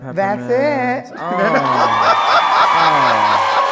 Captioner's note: crowd cheering